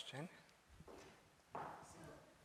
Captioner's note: footsteps